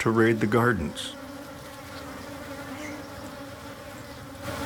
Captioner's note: buzzing